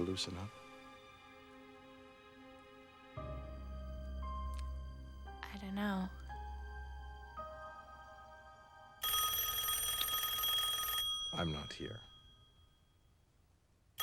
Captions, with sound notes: DO YOU EVER LOOSEN UP? I DON'T KNOW. [TELEPHONE RINGS] I'M NOT HERE.